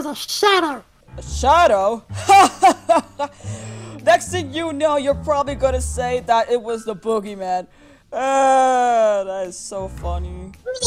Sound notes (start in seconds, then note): 2.1 laughs